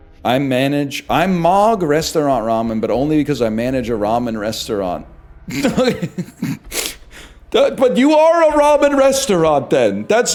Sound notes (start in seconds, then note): 5.5 bursts out laughing